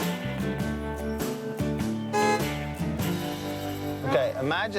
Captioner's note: car horn beeps